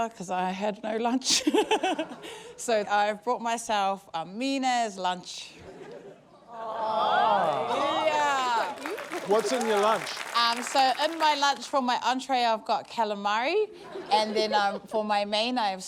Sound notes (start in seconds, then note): 1.8 laughs; 8.1 applause